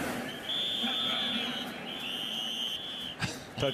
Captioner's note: whistles